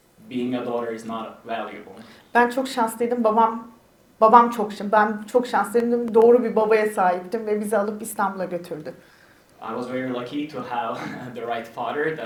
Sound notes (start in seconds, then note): 2.5 speaks in Turkish